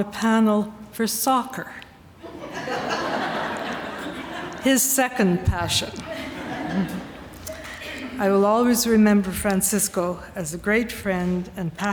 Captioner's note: laughter